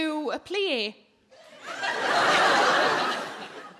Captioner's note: audience laughing